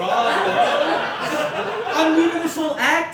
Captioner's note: audience Laughing